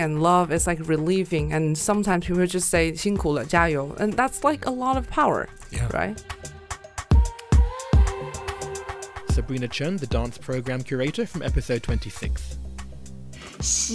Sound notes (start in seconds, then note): 5.8 voiceover